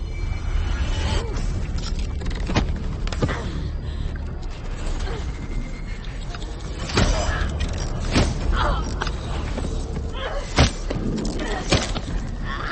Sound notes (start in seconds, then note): 6.6 chain bashing